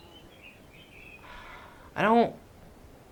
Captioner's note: sighs